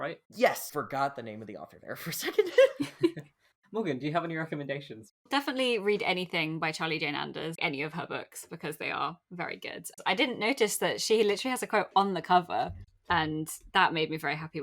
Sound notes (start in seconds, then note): 2.4 laughs